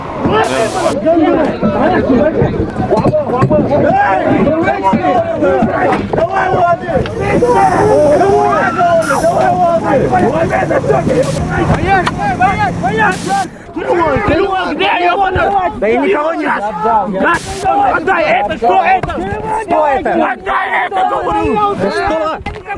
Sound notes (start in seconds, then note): 0.2 chechen; 11.5 chechen; 17.3 recording playing